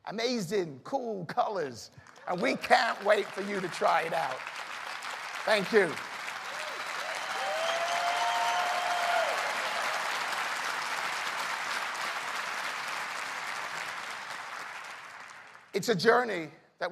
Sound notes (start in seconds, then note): 4.1 applause; 7.3 cheers and applause